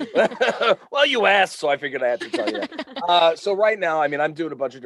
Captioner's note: all laugh